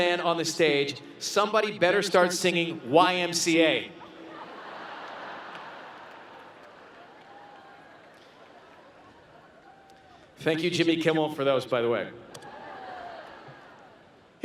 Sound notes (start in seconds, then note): 4.1 laughter